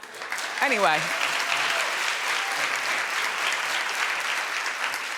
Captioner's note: audience clapping